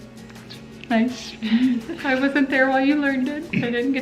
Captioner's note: laughs